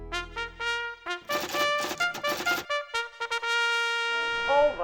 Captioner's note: typewriter keys clacking